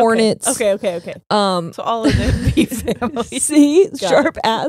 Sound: both laughing

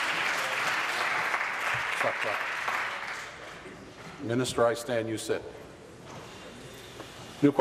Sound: applause

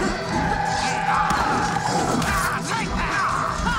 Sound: dramatic music; cannibals grunt

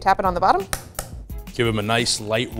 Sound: egg taps

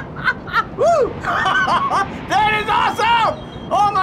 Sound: laughing

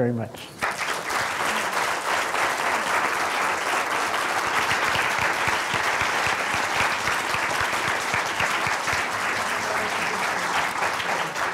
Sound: applause

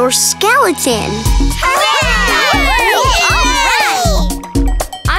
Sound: cheering

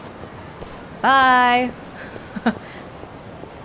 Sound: chuckles

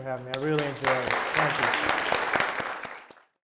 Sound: audience applauding

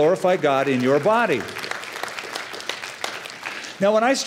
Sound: applause

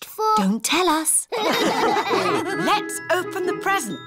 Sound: all laugh

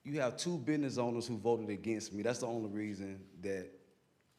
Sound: none

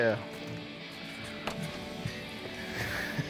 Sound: laughs

